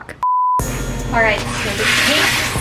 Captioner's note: TV beeps